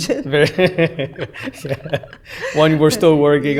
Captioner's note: laughter